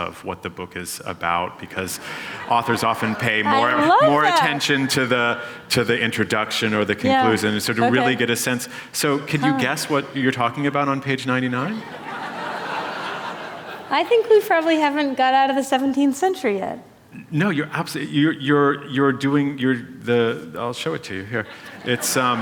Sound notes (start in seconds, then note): 11.7 laughter